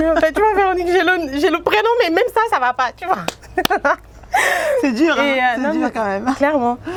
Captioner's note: laughs